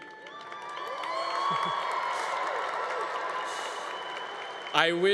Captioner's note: congregation cheering